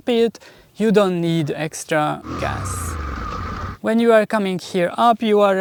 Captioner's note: throttle